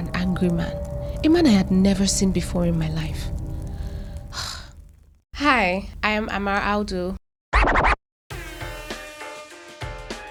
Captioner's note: sighs